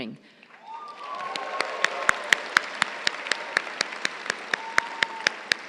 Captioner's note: crowd cheering and applauding